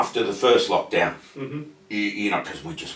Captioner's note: grunts in acknowledgement